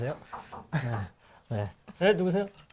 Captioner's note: knocking